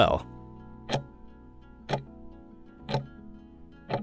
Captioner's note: timer ticking